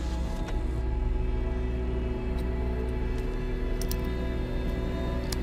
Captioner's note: electricity buzzing